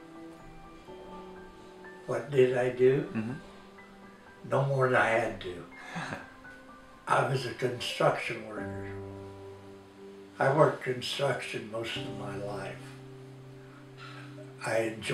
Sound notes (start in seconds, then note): 5.8 laughs